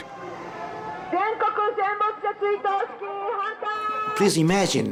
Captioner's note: protestor shouting in Japanese